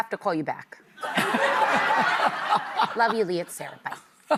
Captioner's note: audience laughing